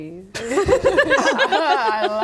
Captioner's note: unsure laughter